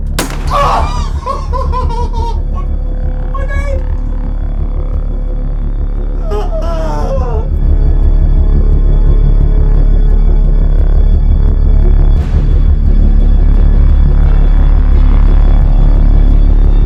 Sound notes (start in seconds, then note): 0.1 gunshot; 0.4 crying